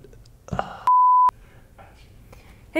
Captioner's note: beeping